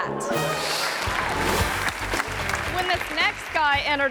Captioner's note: audience applause